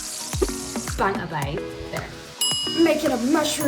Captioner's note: happy music plays; ding